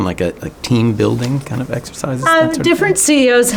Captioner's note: faintly speaking